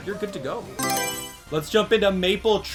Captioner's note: Mario Selection Sound